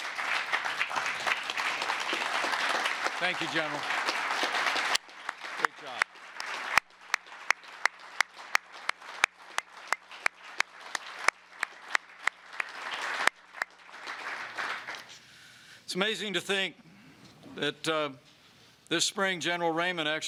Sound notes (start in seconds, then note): 0.3 applause; 6.5 applause